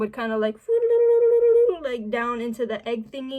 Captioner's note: sing song voice